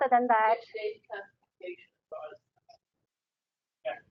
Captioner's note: talking